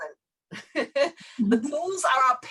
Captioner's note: laughs